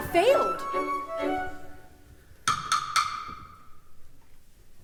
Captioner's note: knocking